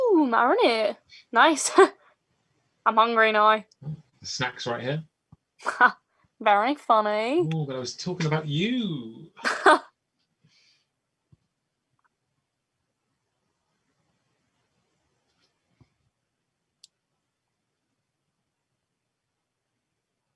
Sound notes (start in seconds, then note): 9.4 laughs